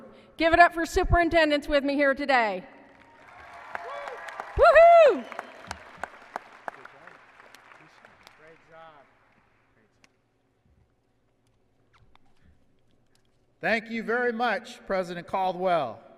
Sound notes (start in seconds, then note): 5.1 applause and cheering